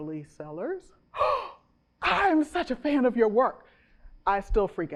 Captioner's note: gasps